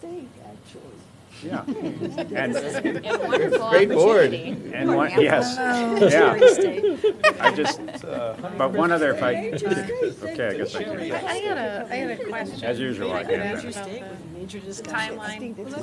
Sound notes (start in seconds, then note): 1.4 laughter